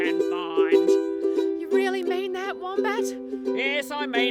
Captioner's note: speaks